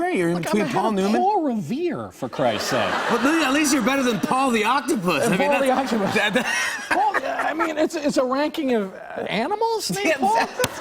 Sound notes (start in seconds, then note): 5.7 laughs